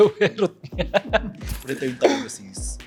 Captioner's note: laughs